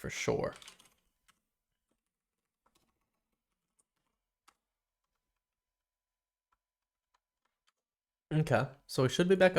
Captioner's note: silence